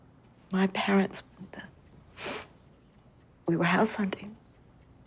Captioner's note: sniffles